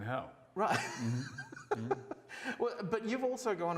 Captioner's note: laughs